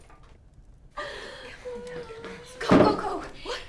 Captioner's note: Belle crying